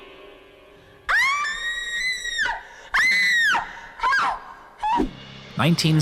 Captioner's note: screams